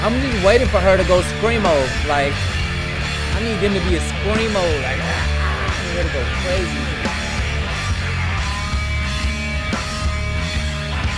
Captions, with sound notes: - I'm even waiting for her to go like scream all like, I need them to be a (groans) you gonna go crazy. (lively instrumental music)